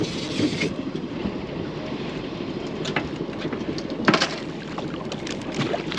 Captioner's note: reel cranking; fish splashing